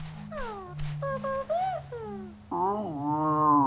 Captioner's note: sighs